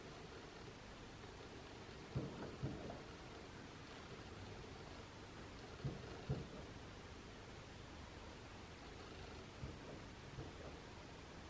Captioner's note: a series of bangs can be heard from outside